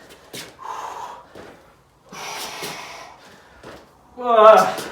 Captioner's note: exhales sharply